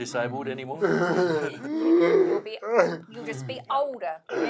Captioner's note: all chuckles